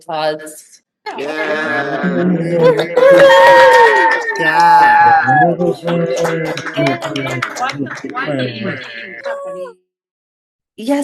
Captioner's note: applause